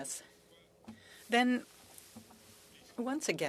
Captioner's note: speaking french